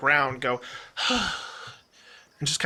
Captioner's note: sigh